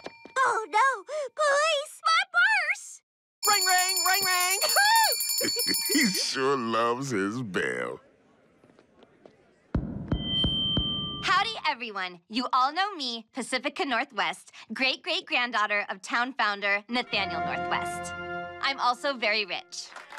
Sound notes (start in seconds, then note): 4.6 laughing; 10.2 microphone feeds back; 19.8 applause